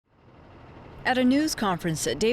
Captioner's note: plane roaring